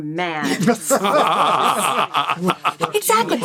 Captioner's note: all laughing